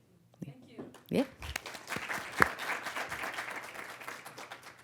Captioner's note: audience clapping